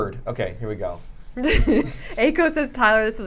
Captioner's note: laughing